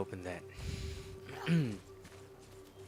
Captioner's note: ahem